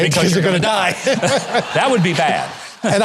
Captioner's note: both laughing